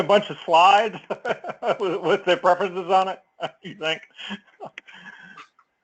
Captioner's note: laugh